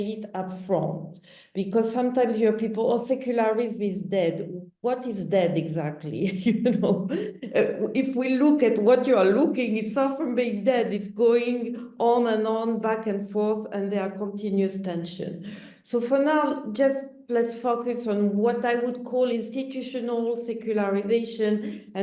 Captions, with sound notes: because sometimes you hear people, oh, secularism is dead. What is dead, exactly? You know? (chuckles) if we look at what you're looking, it's far from being dead, it's going on and on back and forth and there are continuous tension. So for now, just let's focus on what I would call institutional secularization